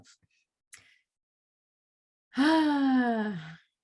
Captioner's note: sighs